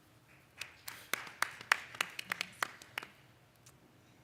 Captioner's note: applause